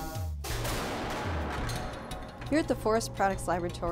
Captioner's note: BLAST and impact noises